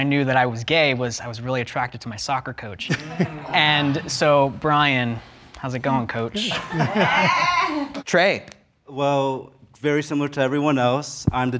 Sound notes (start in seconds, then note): 6.3 laughs